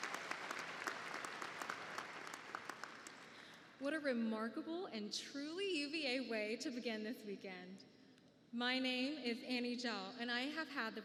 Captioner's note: applause